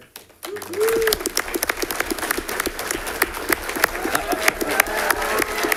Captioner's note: audience clapping and cheering